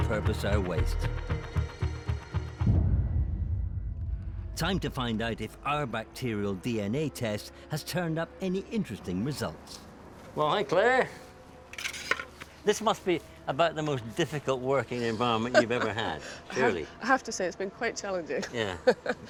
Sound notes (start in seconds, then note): 15.3 laughing; 18.4 laughs